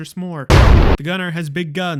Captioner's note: boom